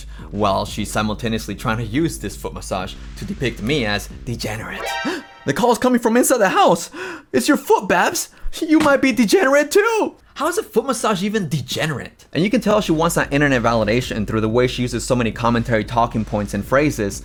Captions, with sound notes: while she's simultaneously trying to use this foot massage to depict me as "degenerate." [gasps] The call is coming from inside the house?! It's your foot, Babs! You might be "degenerate" too! How's a foot massage even "degenerate"? And you can tell she wants that internet validation through the way she uses so many commentary talking points and phrases